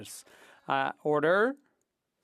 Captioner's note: speaking French